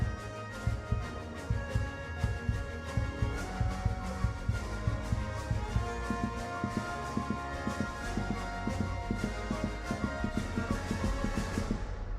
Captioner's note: rapid heartbeat